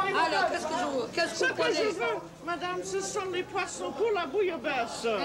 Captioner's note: conversing in French